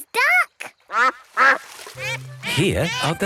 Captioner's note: quacks